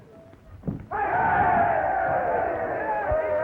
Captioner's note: cheers from outside